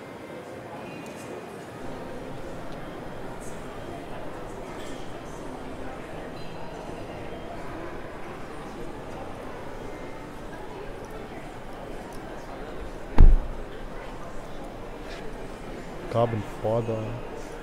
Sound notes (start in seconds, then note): none